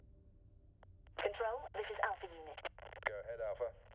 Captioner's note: radio